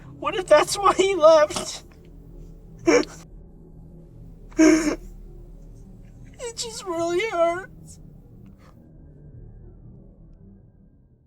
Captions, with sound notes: what if that’s why he left? *sobs* it just really hurts…